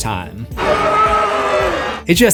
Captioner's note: screams